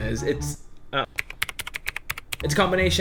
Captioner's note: keyboard clicking